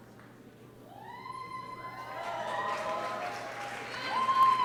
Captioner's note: cheering and applause